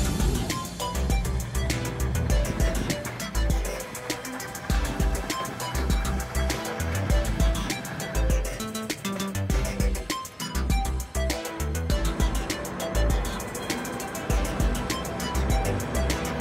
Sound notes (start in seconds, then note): 1.4 chugging diesel sounds, music; 16.0 metallic hissing and grinding, music